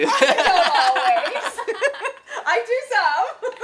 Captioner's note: laughter